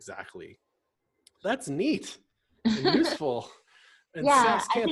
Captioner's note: laughs